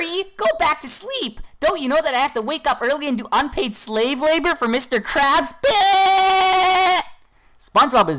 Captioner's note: laughs